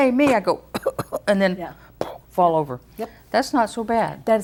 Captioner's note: sings a fight song melody; coughs